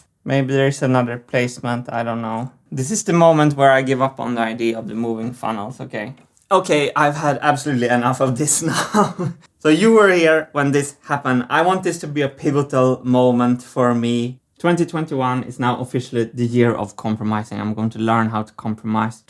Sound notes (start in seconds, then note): 8.6 laughs